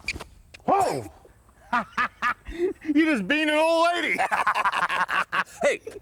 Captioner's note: laugh